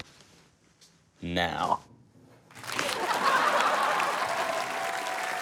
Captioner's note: laughter, applause, cheering